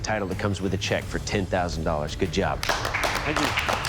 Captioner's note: applause